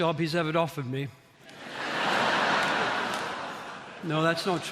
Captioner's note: audience laughing